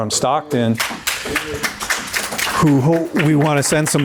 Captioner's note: audience applauding